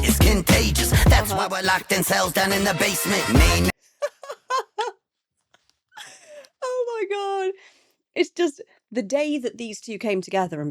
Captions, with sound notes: (laughs) Oh my God. It's just the day that these two came together